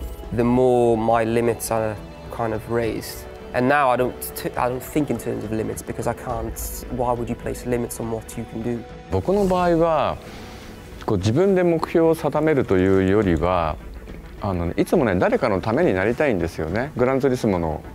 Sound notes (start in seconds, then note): 9.0 Kazunori speaking in Japanese